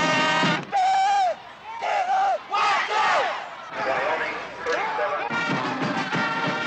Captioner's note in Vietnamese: Tiếng la hét